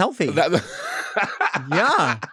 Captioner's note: laughing